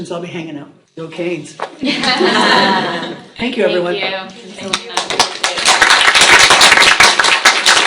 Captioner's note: applause